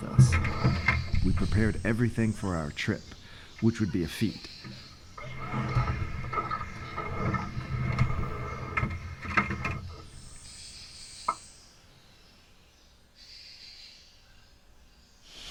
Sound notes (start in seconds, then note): 10.4 water hissing